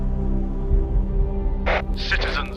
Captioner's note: static